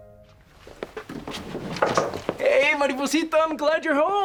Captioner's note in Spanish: Llama a la puerta